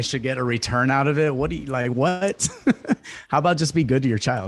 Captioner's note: laughs